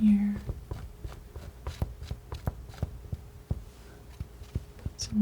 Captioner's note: scratching